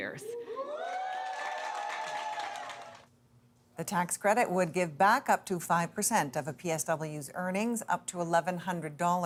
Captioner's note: cheers and Applause